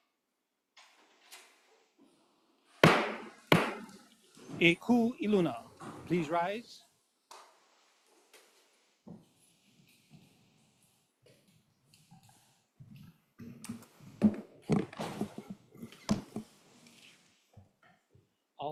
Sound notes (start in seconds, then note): 2.8 gavel bangs twice